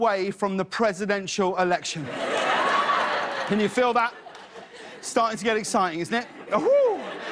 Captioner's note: laughter